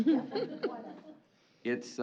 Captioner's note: laughter